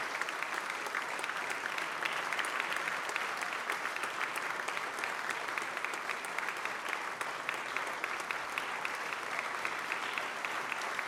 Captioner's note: applause